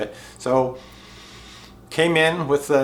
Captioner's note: breathes deeply